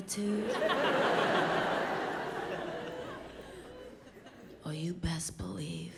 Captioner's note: audience laughs